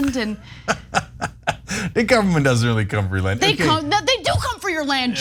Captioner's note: laugh